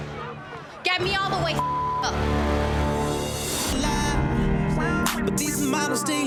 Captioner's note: beep